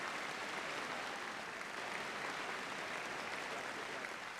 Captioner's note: applause